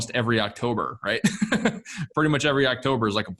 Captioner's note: laughs